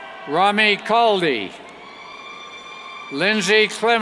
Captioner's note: cheers